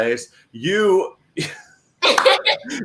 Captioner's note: laughs